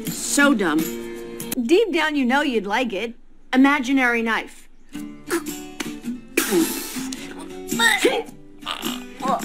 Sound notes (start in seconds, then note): 7.1 makes throwing imaginary knife noises